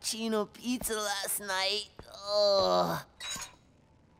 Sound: groaning

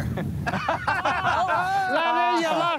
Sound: laughter

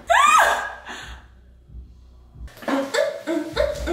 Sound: shouting

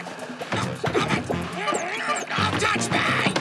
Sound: grunting; exclaims

